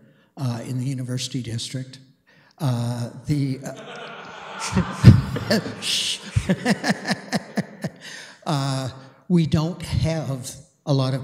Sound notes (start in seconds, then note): 1.7 laughter; 6.2 laughs